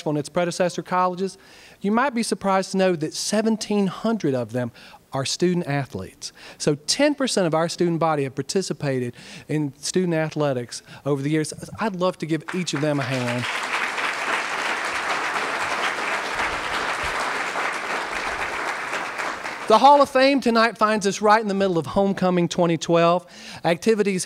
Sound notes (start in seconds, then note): 12.4 applause